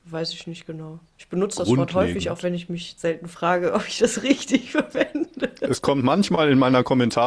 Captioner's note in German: gelächter